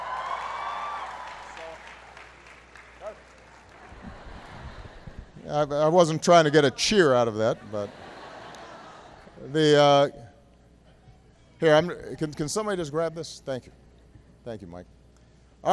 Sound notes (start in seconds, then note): 3.3 laughter and applause; 13.1 laughter